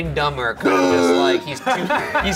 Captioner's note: grunting; Shane and Ryan laughing